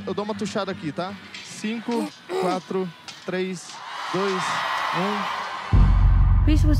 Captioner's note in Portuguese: pigarreia